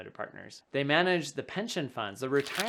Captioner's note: paper rubbing